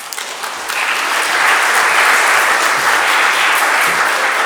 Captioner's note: audience applauding